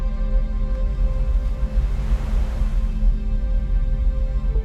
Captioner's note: waves sloshing